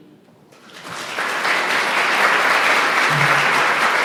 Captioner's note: audience clapping